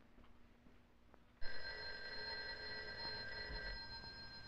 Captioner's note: phone ringing